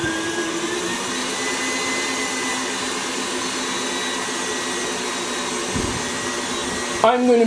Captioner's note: mixing sounds